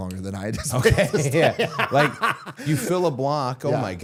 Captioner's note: Matt laughing